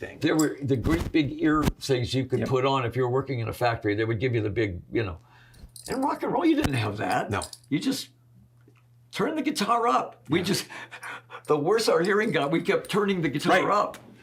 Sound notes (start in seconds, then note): 11.0 chuckles